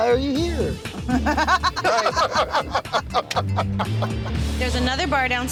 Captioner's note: laughter